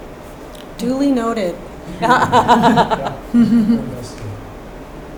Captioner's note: laughing